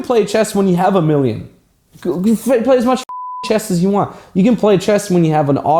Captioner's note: beep